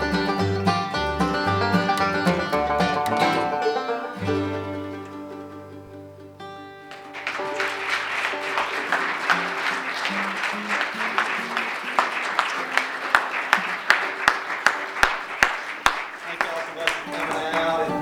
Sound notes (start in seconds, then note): 6.8 applause